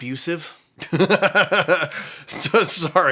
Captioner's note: laughs